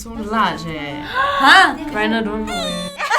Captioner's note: gasps